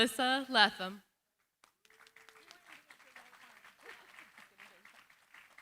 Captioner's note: applause